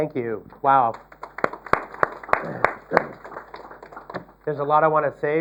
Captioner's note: applause